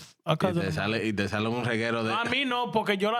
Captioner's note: speaking In Foreign Language